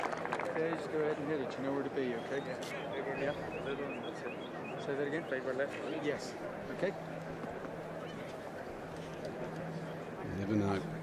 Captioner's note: applause